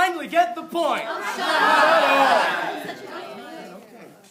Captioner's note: unwarranted groaning